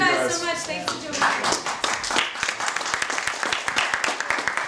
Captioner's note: applause